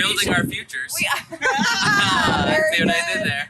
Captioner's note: laughter